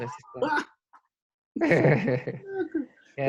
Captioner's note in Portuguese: risos